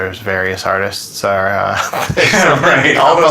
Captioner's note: laughter